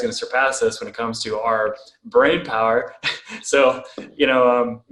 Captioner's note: laughs softly